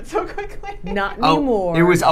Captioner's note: laughing